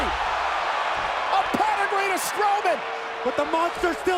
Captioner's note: applause